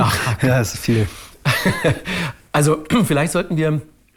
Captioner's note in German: lacht